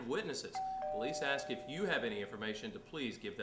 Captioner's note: doorbell rings